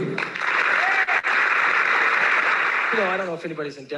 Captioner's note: applause